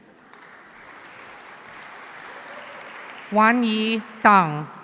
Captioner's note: audience applauding